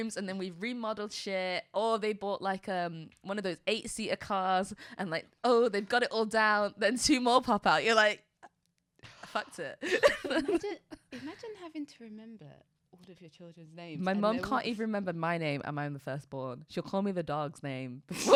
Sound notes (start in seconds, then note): 10.0 laughs